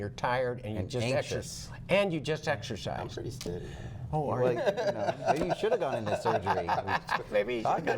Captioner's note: laughter